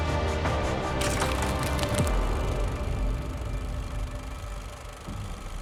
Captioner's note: projector whirring